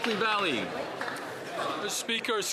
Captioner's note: applause